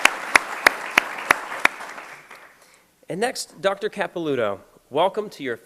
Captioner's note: applause